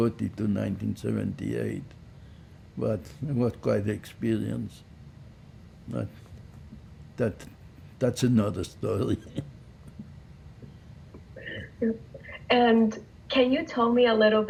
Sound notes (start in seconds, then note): 9.0 laughing